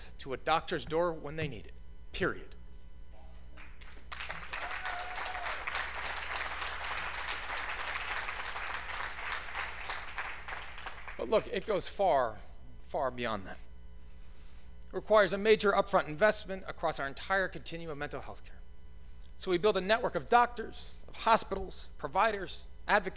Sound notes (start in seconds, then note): 3.8 cheers and applause; 4.1 applause